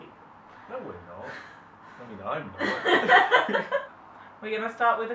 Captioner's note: laughs